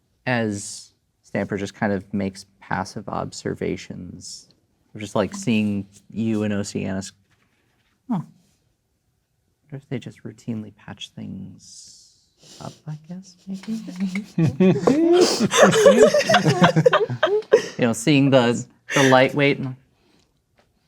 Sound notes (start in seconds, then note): 13.7 players laughing